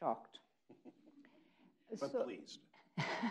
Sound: people chuckling

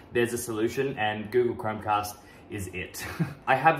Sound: chuckles

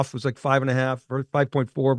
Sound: none

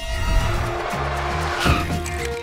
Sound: tires screeching

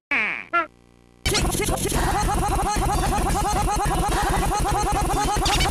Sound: sounds of violence

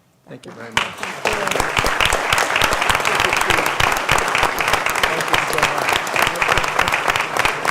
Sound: applause

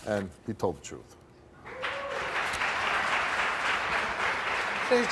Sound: applauding

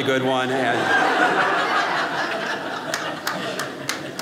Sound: audience laughing

